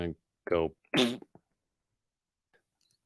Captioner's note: raspberry